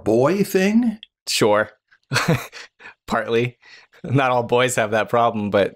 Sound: chuckles

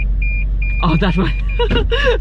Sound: car camera beeping; laughing nervously

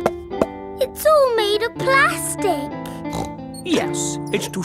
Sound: hollow taps; snorts

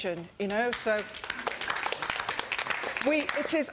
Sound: audience applauds

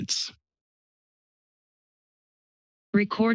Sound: silence

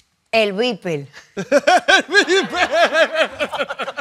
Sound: spanish; laughing

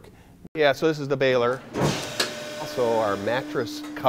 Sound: hydraulic machine sound

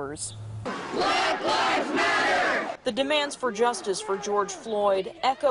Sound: sound of chant

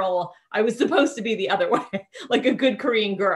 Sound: chuckling

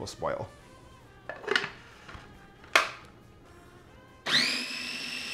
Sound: lid clicking; blender whirring

